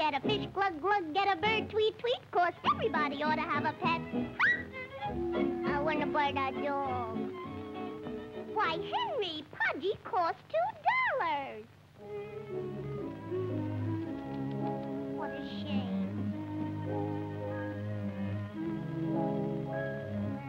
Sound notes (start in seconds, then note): 12.0 sad orchestral music; 13.5 tsks